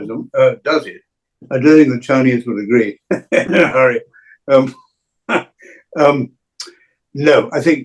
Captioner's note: chuckles